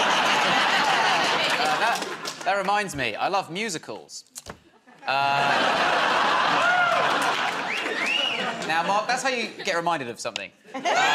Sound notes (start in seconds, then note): 0.0 laughter; 4.7 laughter; 7.8 wolf whistles